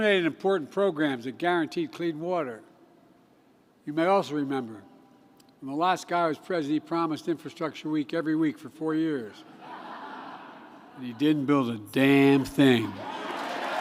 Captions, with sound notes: and eliminated important programs that guaranteed clean water. You may also remember, when the last guy was president, he promised "Infrastructure Week" every week for four years -- (laughter) -- and he didn't build a damn thing.